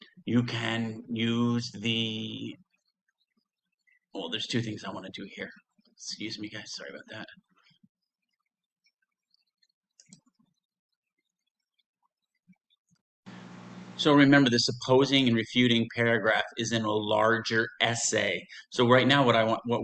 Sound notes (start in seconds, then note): 8.0 silence; 10.0 silence; 13.3 humming sound; 13.3 silence